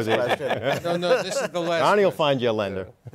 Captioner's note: laughter